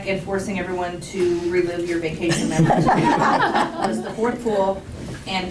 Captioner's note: laughter